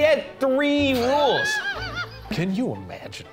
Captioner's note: laughing